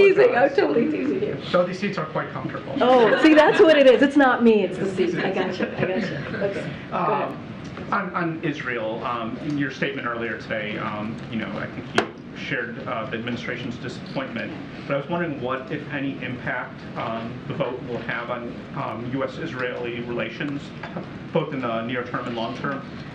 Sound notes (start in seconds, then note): 5.0 laughter